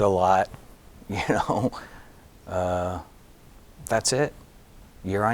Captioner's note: giggling